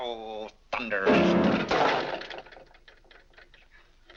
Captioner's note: mashes piano keys; object clatters